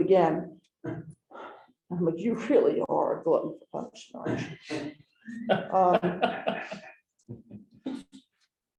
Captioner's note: chuckling